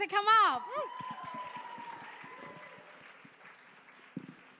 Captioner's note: cheering